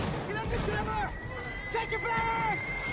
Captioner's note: shells whstle overhead